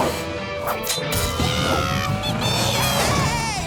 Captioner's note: yelling